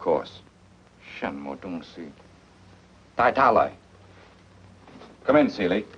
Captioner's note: speaks foreign language